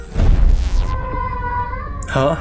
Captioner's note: ghost entry whoosh; ghost speaks